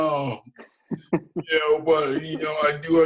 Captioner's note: laughs